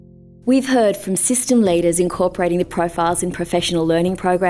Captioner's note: voiceover